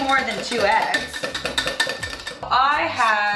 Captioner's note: whisk clanking